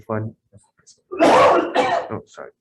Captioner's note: man coughing